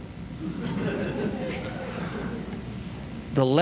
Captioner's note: laughter